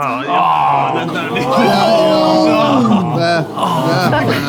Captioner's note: people in room exclaiming and groaning